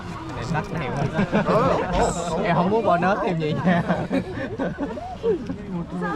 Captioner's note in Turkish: kahkaha